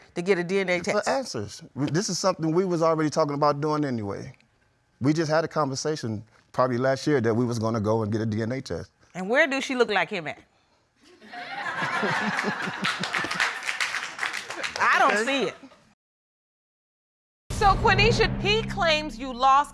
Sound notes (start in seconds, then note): 11.2 audience laughs; 11.5 laughs; 11.8 audience applauds